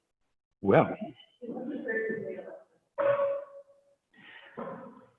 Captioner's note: distant dog barking